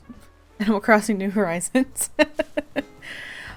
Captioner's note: laughs